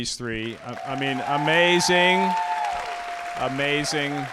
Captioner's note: audience cheering